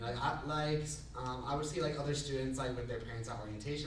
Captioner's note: none